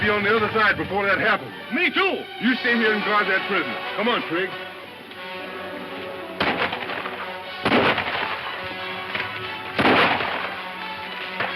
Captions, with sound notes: - We got to be on the other side before that happen. - Me too. - You stay here and guard that prisoner. Come on, Trig. (gunshots)